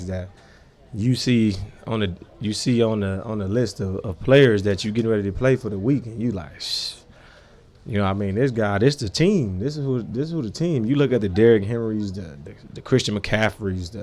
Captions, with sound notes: that you see on the list of players that you getting ready to play, for the week. And you like (scoffs), you know what I mean? This guy, this the team, this is who the team. You look at the Derrick Henrys, the Christian McCaffreys,